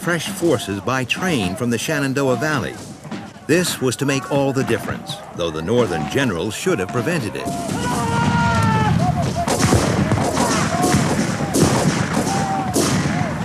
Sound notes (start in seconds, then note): 7.4 guns bang; 8.6 shouting